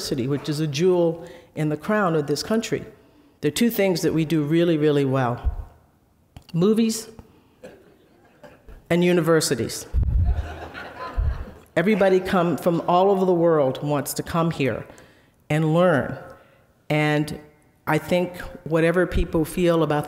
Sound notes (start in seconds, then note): 10.2 audience laughing